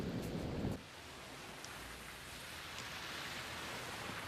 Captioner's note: rain pattering